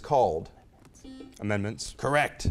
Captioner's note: beep